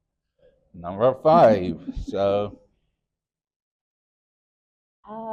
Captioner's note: chiming sound effect; chuckles